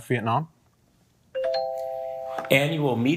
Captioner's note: bell ringing